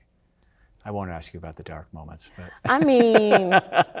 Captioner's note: laughing